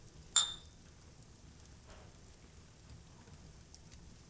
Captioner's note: glasses clink